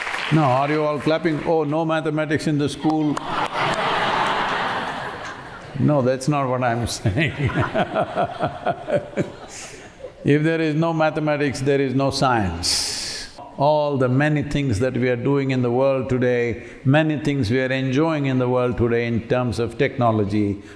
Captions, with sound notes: No, are you all clapping, “Oh, no mathematics in the school?” [laughter] No, that's not what I'm saying. [laughs] If there is no mathematics, there is no science. All the many things that we are doing in the world today, many things we are enjoying in the world today in terms of technology,